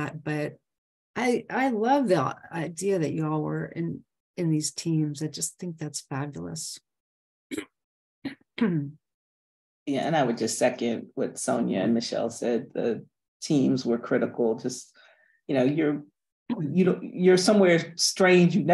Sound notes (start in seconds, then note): 7.5 clears throat